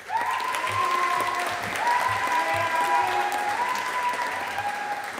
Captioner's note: audience applauding